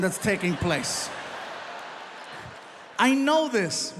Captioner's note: audience laughs